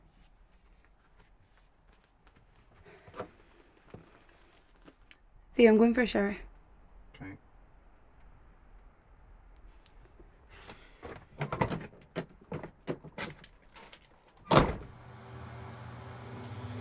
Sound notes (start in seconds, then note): 14.4 closes door